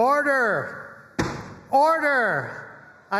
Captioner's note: flag thuds